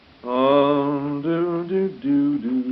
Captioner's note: humming